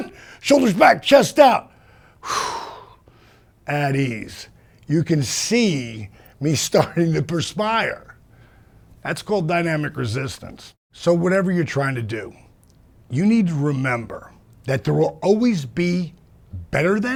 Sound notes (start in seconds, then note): 1.7 exhale sound